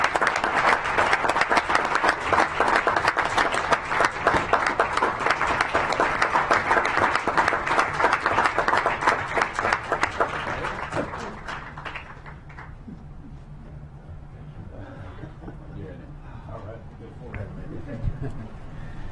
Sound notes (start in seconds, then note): 5.6 clapping